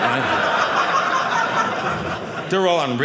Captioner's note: audience laughing